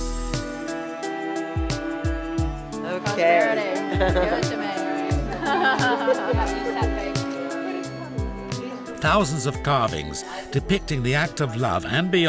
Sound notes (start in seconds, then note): 3.8 laughter, whooping